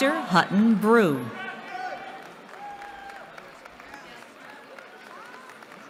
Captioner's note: cheering